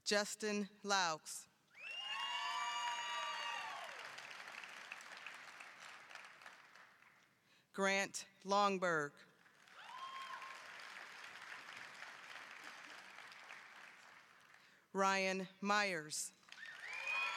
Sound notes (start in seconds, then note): 1.8 applause, cheering; 9.3 applause